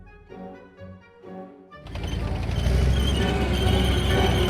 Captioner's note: engine rumbling